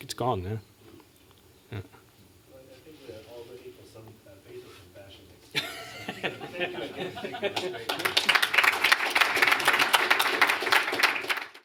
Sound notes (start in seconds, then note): 5.5 chuckling; 7.4 applause